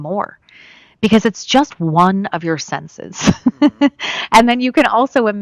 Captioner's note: laughs